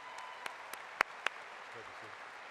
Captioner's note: applause